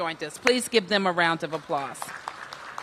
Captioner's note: applause